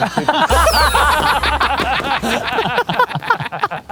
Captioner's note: group laughing